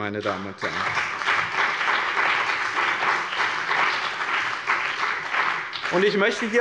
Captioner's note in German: Beifall bei dem BÜNDNIS 90/DIE GRÜNEN und der CDU